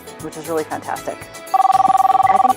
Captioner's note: phone ringing